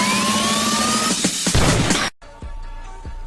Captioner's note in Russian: выстрел